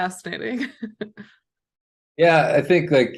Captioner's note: laughter